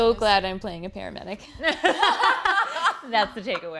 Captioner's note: laughter